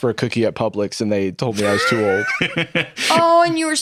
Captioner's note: laughs